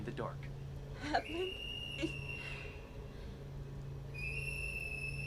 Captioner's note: whistle blows